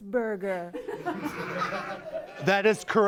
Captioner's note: audience laughing